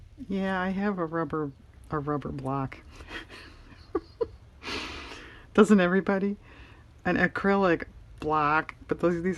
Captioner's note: laughs